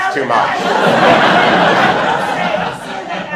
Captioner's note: laughter